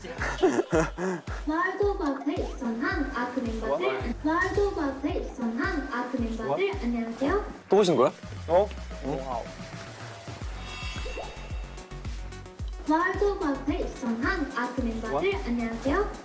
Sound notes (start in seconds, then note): 4.3 AI Tsuki's voice plays in the living room